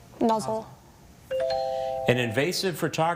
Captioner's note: text chiming